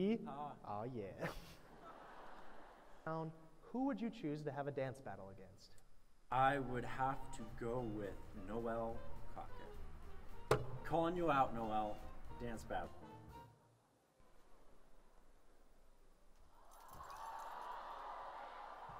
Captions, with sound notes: Haw. Ah, yeah. [LAUGHTER] Now, who would you choose to have a dance battle against? I would have to go with Noel Coquette. Calling you out, Noel. Dance battle. [CHEERING]